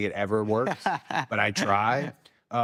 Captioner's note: Timothee laughs